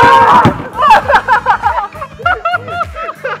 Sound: both laughing historically

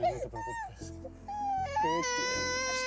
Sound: Llanto del bebÈ

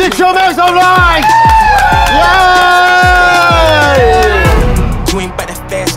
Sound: sound of cheering

